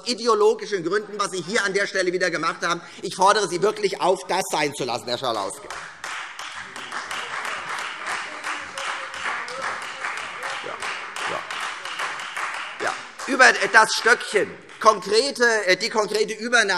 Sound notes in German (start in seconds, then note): 5.4 Beifall Freie Demokraten